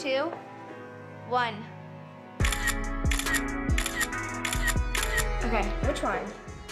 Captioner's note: camera sound effects